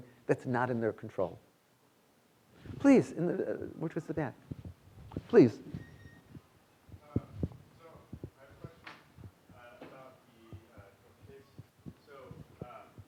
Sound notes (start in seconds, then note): 7.9 student speaking faintly